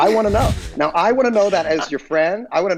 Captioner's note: Charlie, Megan snickering